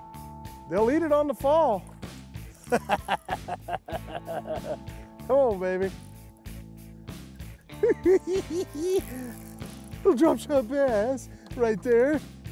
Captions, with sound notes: They'll eat it on the fall. [chuckles] Come on, baby. [giggling] Little drop-shot bass right there.